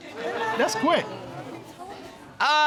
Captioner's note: audience exclaims